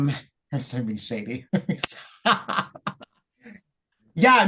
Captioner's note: laughs